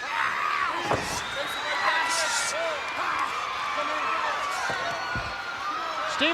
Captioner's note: Knobbs screams; crowd cheers